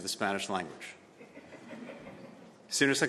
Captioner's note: laughter